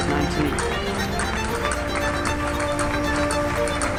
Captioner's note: people clapping